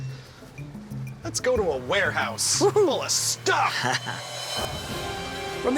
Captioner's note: chuckles